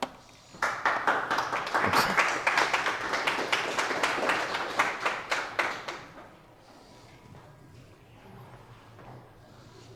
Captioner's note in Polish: Aplauz